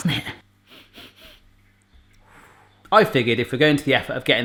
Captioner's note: sniffing